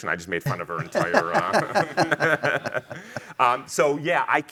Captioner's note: laughing